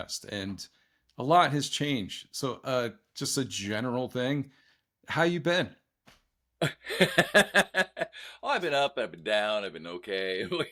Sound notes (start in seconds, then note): 6.6 laughs